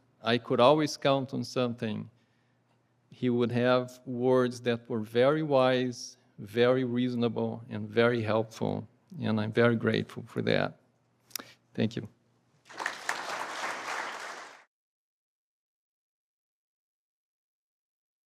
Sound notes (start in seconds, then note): 12.6 applause